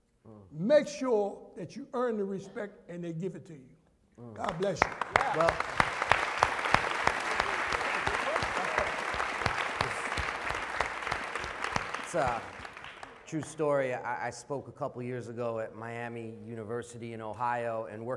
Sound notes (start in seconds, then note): 4.4 applause